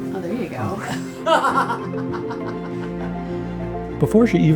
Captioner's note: laughs